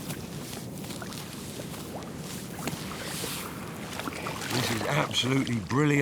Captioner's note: turtle's flippers slap the sand